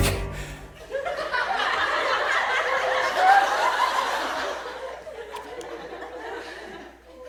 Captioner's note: audience laughs